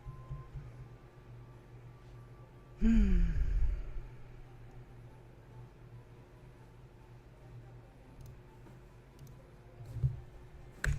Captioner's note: clicks and types